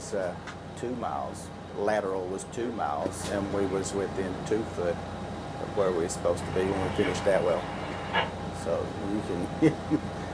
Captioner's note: laugh